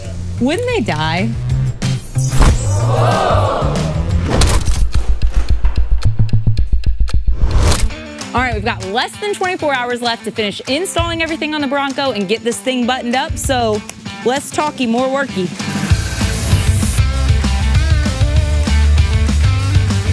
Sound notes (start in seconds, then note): 2.0 magical chime; 2.7 crowd; 3.9 dramatic clock ticking; 15.4 upbeat music